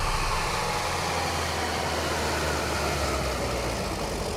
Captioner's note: vechicle engine revving